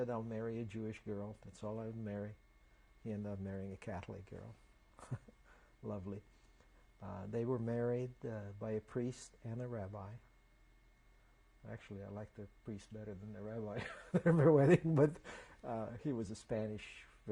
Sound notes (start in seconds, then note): 5.0 laughs; 13.8 laughs